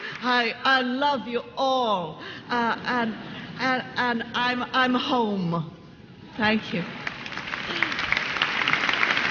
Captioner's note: laughter; applause